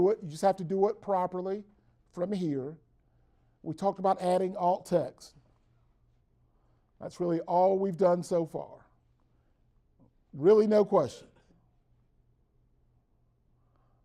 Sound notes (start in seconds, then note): 9.4 brief Silence